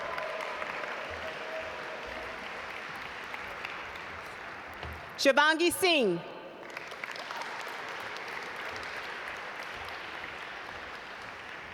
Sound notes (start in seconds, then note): 0.0 audience applaud; 6.6 audience applaud